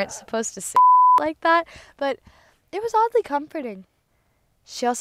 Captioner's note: beep